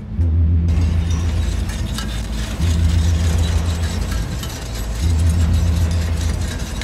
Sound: steamroller passing; rhythmic experimental music

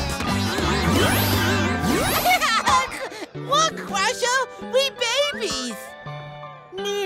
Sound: giggling

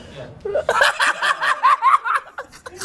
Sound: cackles

